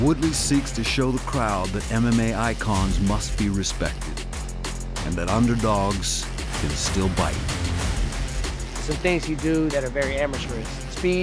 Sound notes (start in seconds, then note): none